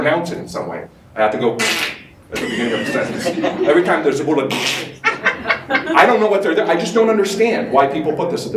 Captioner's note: laughter